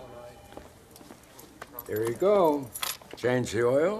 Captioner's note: rattle of keys